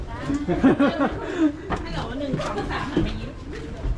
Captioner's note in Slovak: smiech